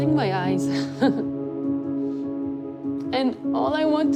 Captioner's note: chuckles